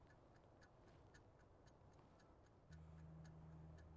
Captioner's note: none